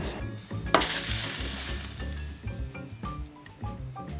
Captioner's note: tray sliding